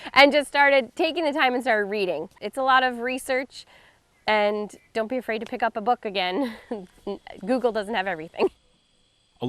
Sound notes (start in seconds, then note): 6.4 chuckles